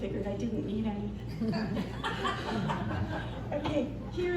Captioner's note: audience laughter